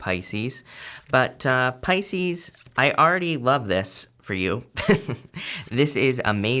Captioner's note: laughs